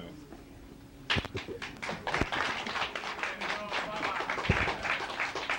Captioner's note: audience applauding